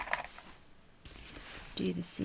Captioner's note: rattling